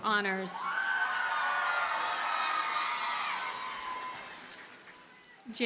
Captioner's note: audience cheers and applauds